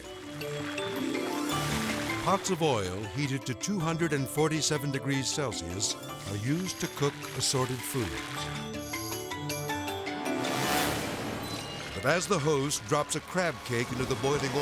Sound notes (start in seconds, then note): 0.1 gentle music; 7.7 gentle dramatic music; 7.7 oil sizzling; 10.3 edgy dramatic music